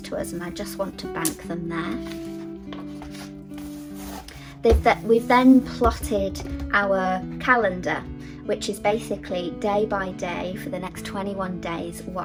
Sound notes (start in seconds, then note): 1.7 paper rustling